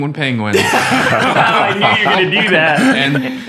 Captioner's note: all laugh